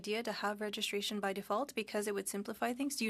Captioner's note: speaking French